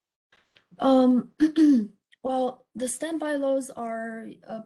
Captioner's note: clears throat